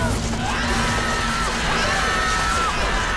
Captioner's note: screaming